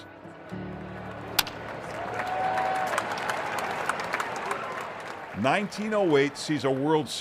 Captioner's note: crowd cheering; bat hitting